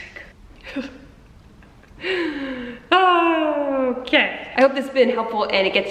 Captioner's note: laughs